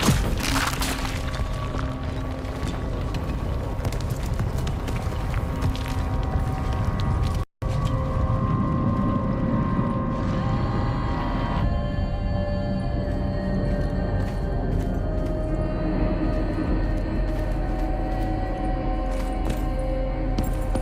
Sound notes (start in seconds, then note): 1.2 rumbling; 10.4 chorus vocalizing